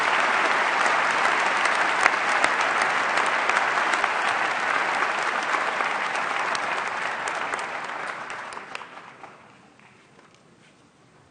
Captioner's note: applause